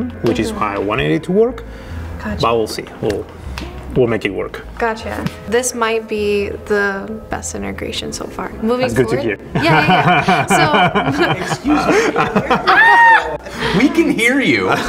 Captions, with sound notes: which is how I wanted it to work. But we'll see, we'll make it work. Gotcha. This might be the best integration so far. That's good to hear. Yeah, yeah. (laughing) Excuse me. (screaming) We can hear you.